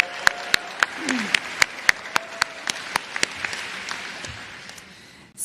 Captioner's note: applause